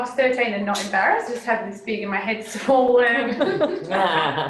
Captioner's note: laughter